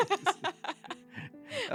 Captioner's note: laughing